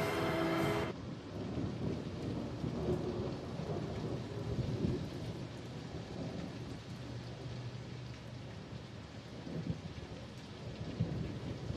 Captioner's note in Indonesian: guntur di kejauhan